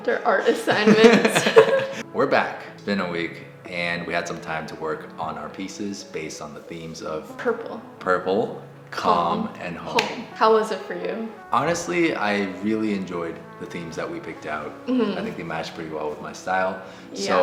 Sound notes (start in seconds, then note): 0.4 both laugh